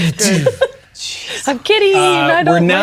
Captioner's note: laughing